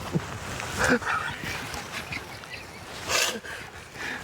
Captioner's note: both chuckling